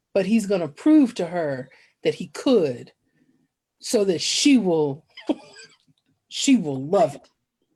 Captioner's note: laughs